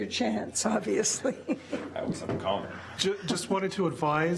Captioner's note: chuckles